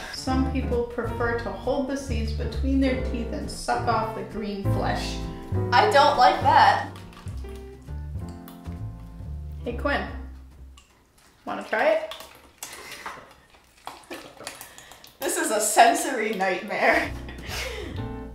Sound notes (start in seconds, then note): 5.7 disgusting slime dripping; 12.7 disgusting dripping continues